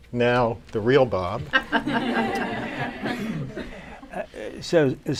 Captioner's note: laughter